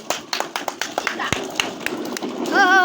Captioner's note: kids Clapping